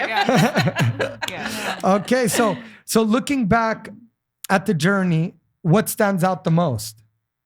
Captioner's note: laughing